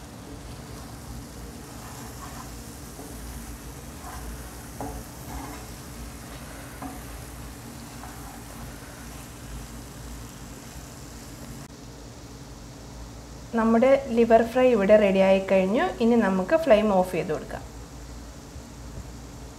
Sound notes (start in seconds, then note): 3.0 stirring